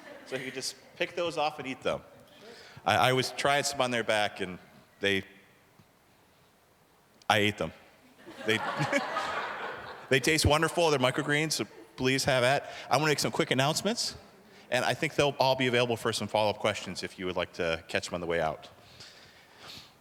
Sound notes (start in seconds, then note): 8.2 audience laughing